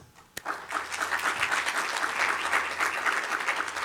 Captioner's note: audience applauding